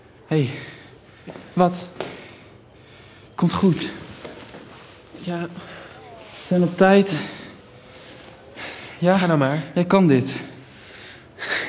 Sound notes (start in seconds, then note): 3.4 speaking foreign language